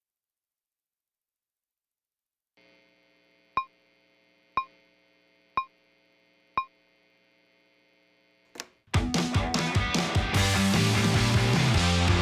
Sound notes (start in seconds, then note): 2.6 electronic humming; 3.7 countdown blips; 8.9 rock music